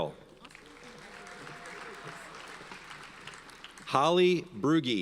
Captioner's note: audience applauds